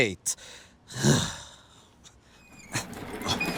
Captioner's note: sighs